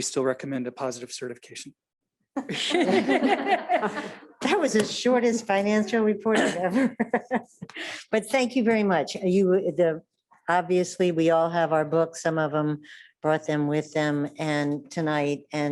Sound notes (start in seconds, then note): 2.4 audience laughing; 6.4 laughs